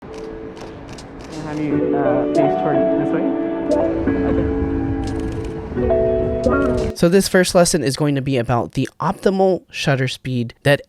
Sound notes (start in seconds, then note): 0.0 tranquil music; 0.5 camera shutters; 4.1 tranquil music